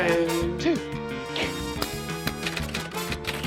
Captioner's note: grunts; keys clack